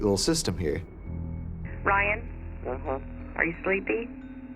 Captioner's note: on phone